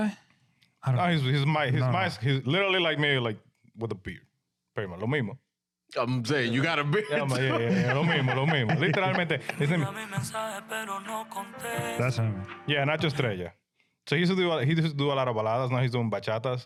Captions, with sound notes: I don't know. His mask, he's literally like me, like with a beard. Very much, "Lomimo." I'm saying, you got a beard too? Yeah, yeah, yeah, "Lomimo, Lomimo." (Speaking In Foreign Language) Yeah, Nacho Streja. So he used to do a lot of baladas, now he's doing bachadas.